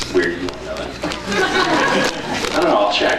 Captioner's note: laughs; scattered laughs